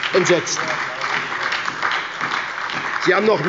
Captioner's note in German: Beifall bei der SPD